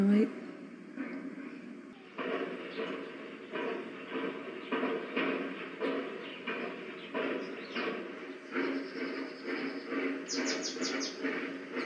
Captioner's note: loud metallic banging